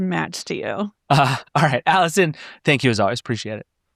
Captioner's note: laughing